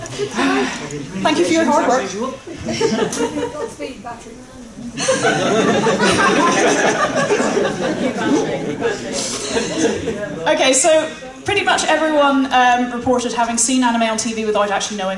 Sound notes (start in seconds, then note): 4.9 laughter